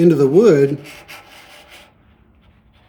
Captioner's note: pine scraping